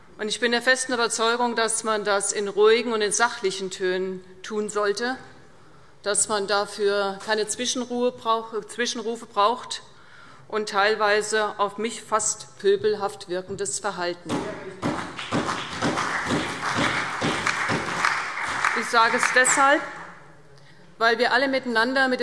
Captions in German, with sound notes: Ich bin der festen Überzeugung, dass man das in ruhigen und in sachlichen Tönen tun sollte, dass man dafür keine Zwischenrufe braucht und kein teilweise auf mich fast pöbelhaft wirkendes Verhalten. [Beifall CDU, BÜNDNIS 90/DIE GRÜNEN und vereinzelt SPD] Ich sage das deshalb, weil wir alle miteinander mit